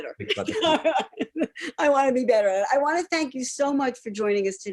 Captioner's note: laughs